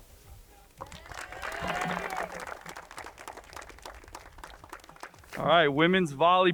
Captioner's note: crowd cheering and applauding